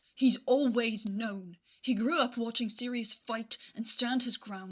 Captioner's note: none